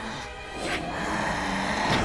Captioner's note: growling